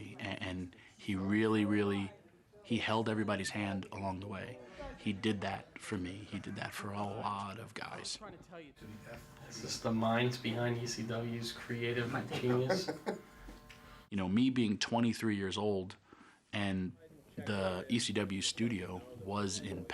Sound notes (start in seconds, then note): 12.1 laugh